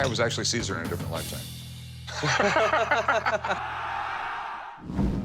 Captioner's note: laughter